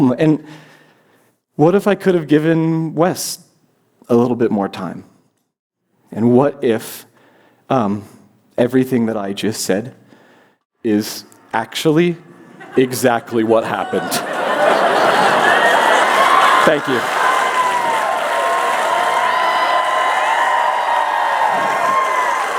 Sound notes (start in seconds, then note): 14.6 cheers; 17.3 applause; 17.3 cheers